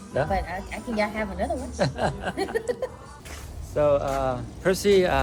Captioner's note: laughter